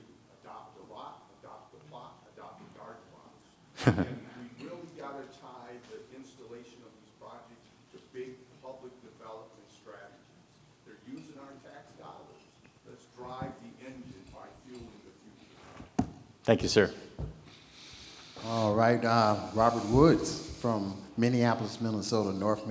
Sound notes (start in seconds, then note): 3.7 chuckles